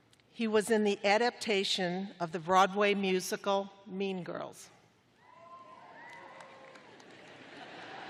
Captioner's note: cheering; laughter